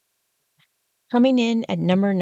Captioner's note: sound effect